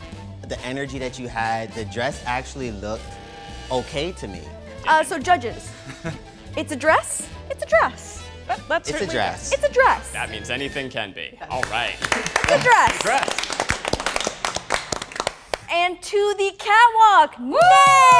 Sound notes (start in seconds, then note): 11.5 claps